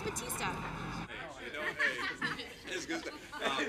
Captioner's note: people talking together